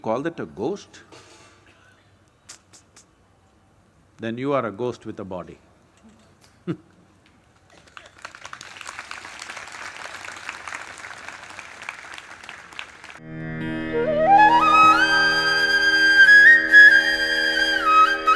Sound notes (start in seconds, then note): 9.2 laughs; 10.5 applause